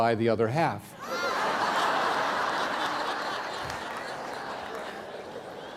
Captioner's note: laughter